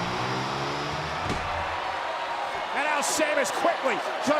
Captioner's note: applause